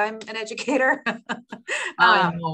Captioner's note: laughing